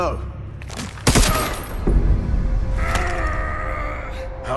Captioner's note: Grita de dolor